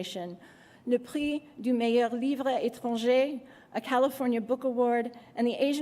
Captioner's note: non-english speech